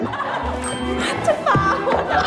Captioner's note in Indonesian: ★ gemerincing ~! ★